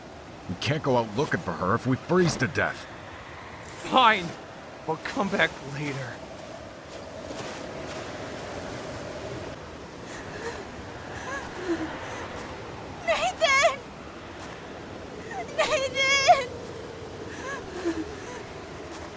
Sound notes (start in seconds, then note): 11.1 shivering